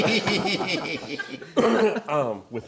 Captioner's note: laughing